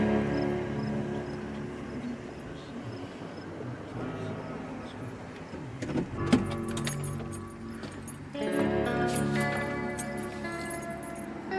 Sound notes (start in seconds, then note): 0.1 gentle music; 7.0 car door opening